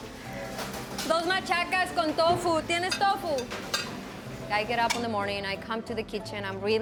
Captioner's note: speaking foreign language